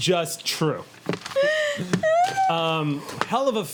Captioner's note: laughing